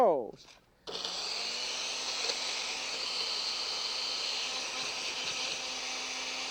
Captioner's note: whirring